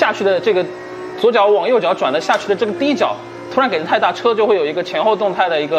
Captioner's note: throttle